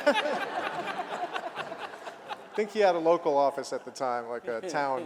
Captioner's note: laughter